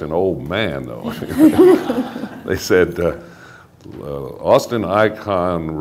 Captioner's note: laughter